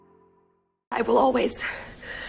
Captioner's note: voiceover